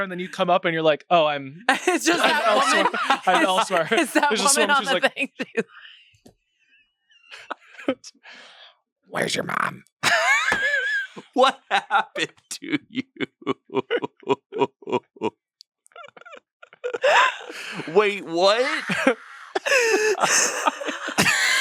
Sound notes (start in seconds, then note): 1.7 laughs; 10.0 everyone laughs; 12.4 laughs; 19.3 everyone laughs